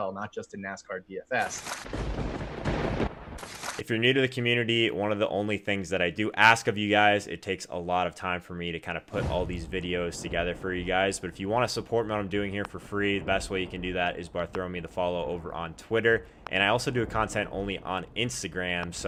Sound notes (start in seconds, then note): 1.8 thunder